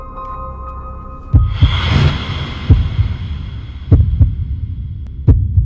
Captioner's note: heartbeat thumping